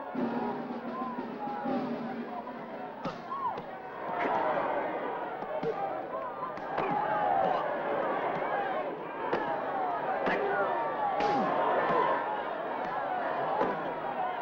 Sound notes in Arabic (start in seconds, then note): 0.2 ضجيج الحشد; 2.7 أصوات شجار; 3.0 ضوضاء الحشد